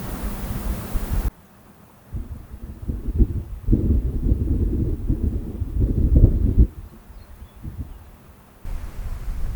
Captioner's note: roaring hot springs